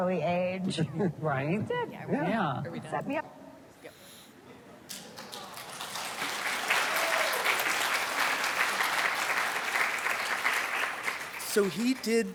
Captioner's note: audience applauds